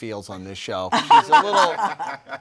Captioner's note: panel laughing